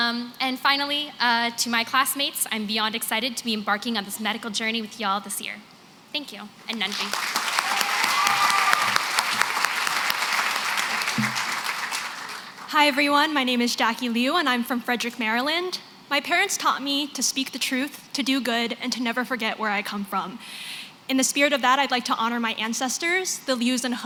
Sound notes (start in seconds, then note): 6.6 non-english